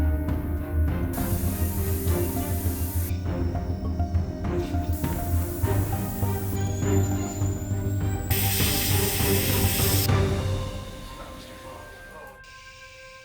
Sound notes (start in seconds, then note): 1.8 tool whizzing